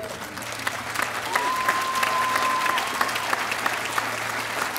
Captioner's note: audience applauding